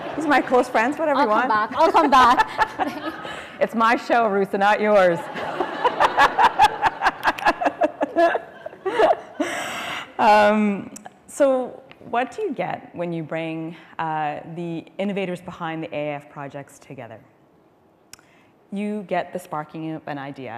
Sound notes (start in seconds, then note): 5.2 laughter